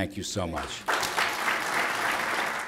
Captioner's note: applause